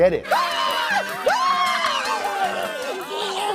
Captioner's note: screaming